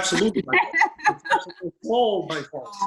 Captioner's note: laughs